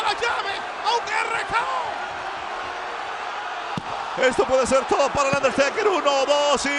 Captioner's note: applause